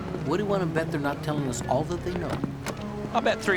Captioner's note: none